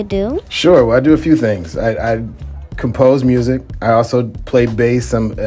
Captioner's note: none